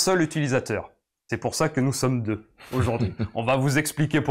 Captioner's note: laughs